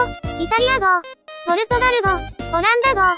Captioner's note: German; Italian